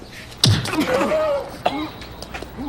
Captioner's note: laughter; blow lands, gasping; grunting